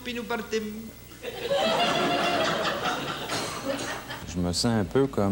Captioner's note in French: rires